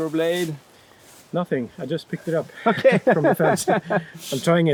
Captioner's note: laughing